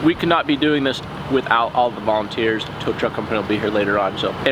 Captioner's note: none